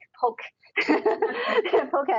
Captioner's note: laughter